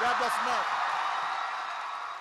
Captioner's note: applause